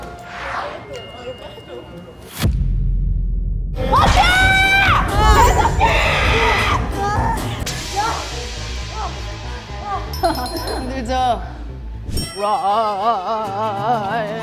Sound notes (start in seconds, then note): 5.9 +pterodactyl scream